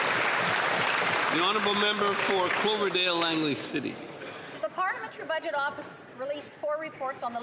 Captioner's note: applause